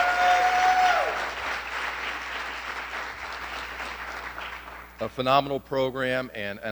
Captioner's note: applause